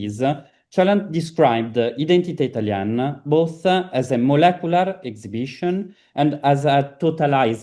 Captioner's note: italian